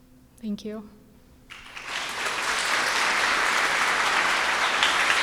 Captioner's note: audience applauding